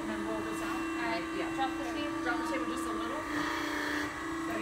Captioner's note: machine sounds